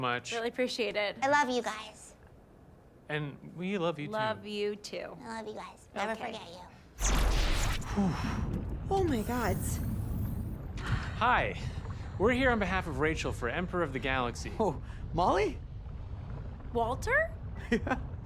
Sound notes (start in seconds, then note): 7.8 exhales deeply; 9.0 door opening